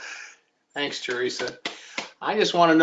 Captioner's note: laughs